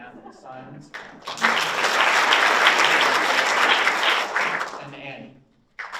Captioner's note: audience applauds